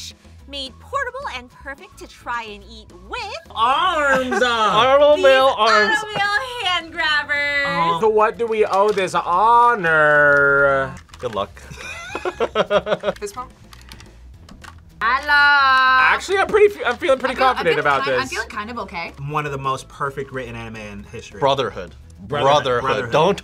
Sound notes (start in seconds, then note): 4.0 laughs; 11.6 both laugh